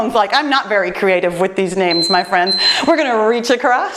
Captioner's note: timer beeps